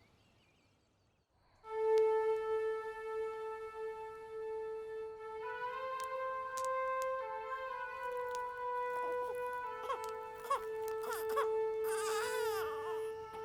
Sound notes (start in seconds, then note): 1.8 solemn music; 8.8 infant crying